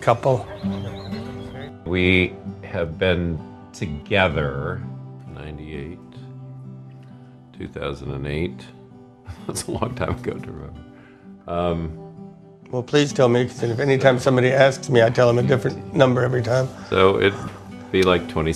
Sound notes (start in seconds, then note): 13.6 laughing